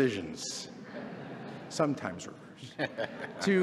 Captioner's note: laughter